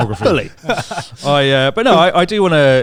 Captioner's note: laughs